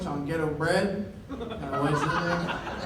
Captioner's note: laughter